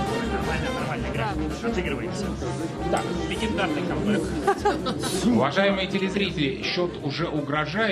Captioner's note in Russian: смех